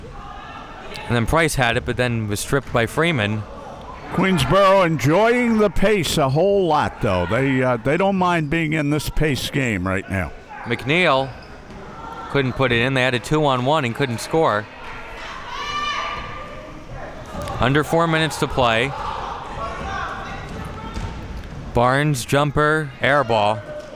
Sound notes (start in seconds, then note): 15.4 spectators shouting; 19.8 spectators shouting